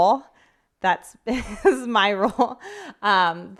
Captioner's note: chuckles